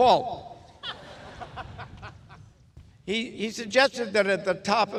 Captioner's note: audience laughs